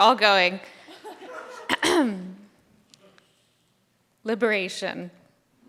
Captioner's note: audience laughs